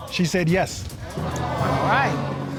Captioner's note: audience gasp